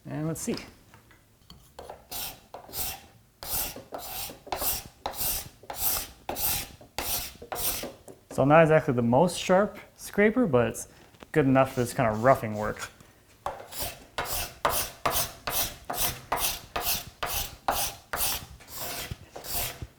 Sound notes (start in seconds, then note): 3.4 blade on wood scraping; 13.5 blade on wood scraping